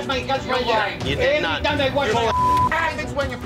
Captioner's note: arguing